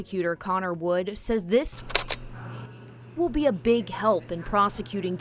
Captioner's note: camera shutter clicks